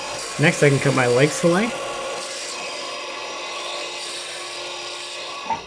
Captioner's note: machines whir